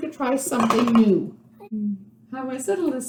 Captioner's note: tapping spoon on side of bowl and shaking spoon